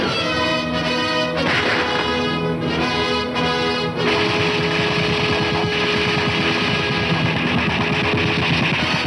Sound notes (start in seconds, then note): 4.9 gunshots